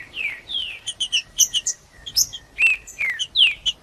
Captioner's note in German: trinca ferro cantando